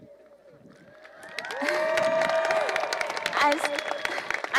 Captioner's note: cheering